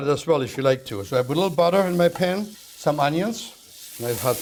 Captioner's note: sizzling